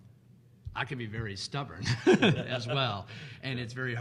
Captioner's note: laughs